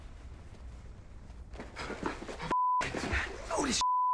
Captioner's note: panting